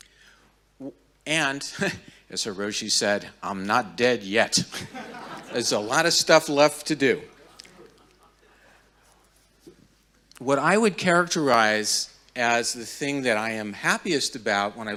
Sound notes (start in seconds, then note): 4.8 audience laughing